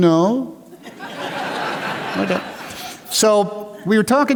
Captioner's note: laughter